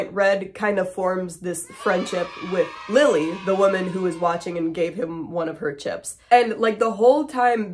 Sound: cheering

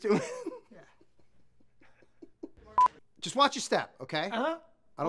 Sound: laughs

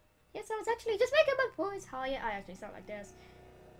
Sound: deepens voice to normal

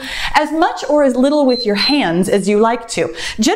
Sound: timer beeps

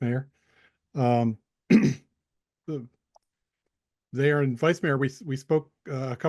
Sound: clears throat

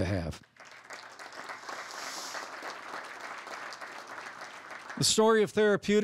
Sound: applause

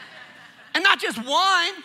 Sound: congregation laughing

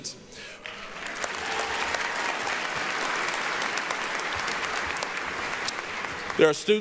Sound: applause

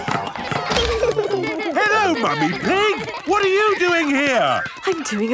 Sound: laughter

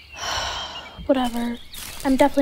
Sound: sighs

